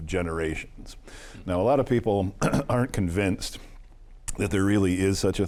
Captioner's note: clears throat